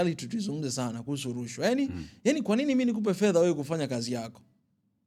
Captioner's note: clearing throat